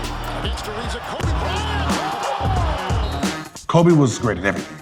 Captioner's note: audience cheering